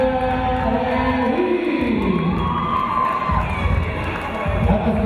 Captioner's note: cheering